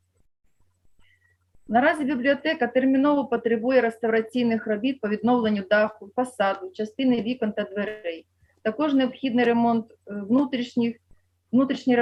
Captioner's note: foreign Language